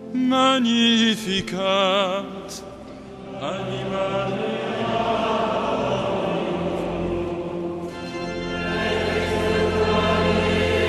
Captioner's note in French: chant